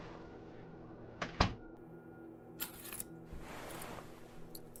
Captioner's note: door closing